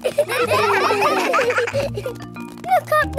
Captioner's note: children laughing